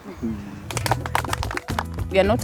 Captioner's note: crowd clapping